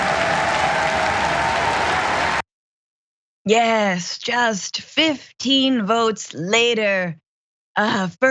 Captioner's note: applause